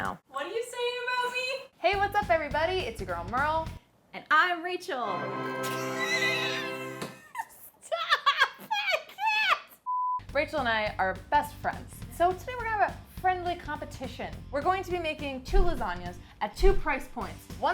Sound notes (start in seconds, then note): 5.4 laughing